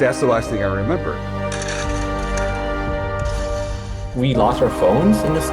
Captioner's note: glass shattering; clattering